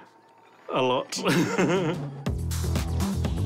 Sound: laughs

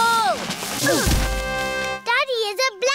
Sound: all grunt

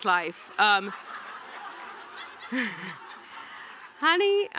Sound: audience laughing

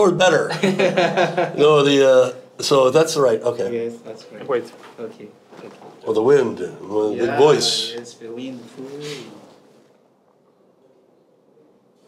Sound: all laugh

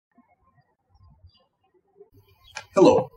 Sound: birds chirping

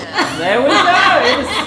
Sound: all laughing

